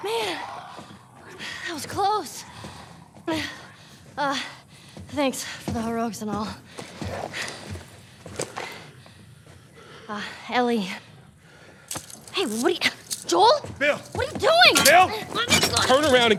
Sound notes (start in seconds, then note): 6.2 Ellie and Joel gasping